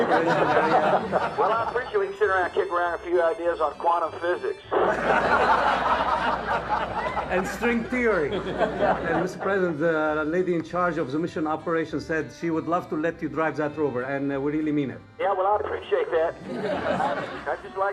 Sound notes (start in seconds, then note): 4.7 crowd laughs